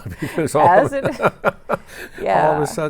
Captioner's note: both laughing; laughs